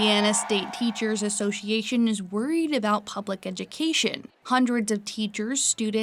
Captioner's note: crowd shouting